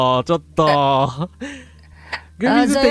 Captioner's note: laughter